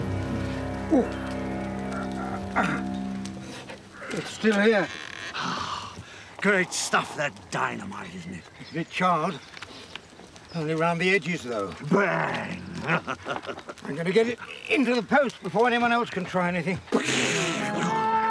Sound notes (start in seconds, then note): 12.7 chuckling